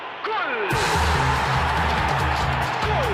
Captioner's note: crowd cheers, music resumes